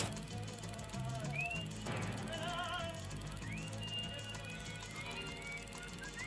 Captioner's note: whistle